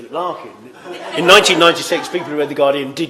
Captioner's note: laughter